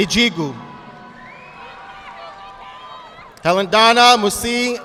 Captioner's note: audience clapping